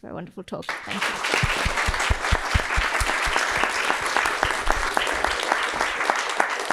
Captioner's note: audience claps